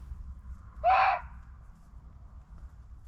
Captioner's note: muntjac barking